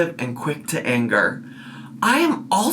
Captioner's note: none